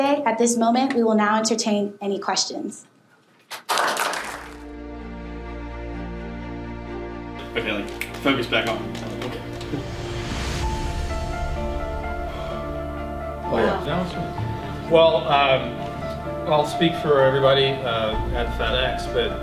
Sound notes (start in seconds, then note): 3.5 clapping; 10.0 tense music